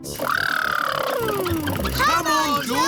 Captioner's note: makes sputtering noises